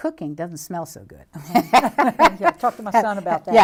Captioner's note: laughter